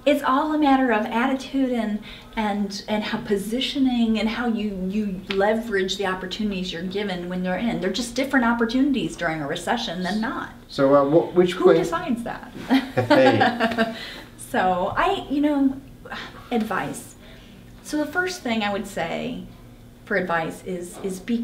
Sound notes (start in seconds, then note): 12.7 laughing